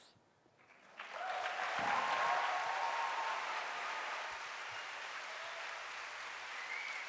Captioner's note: applause